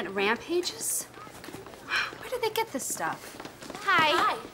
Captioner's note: scoffs